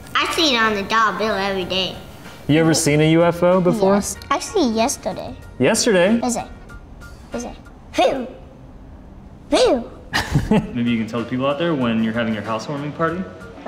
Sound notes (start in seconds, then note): 9.6 laughs